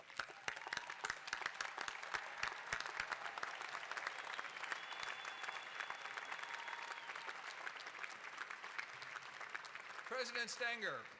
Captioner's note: applause